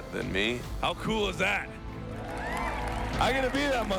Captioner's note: audience cheering